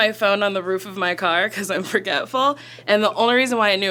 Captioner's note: chuckles